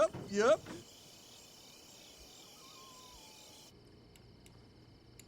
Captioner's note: crickets chirping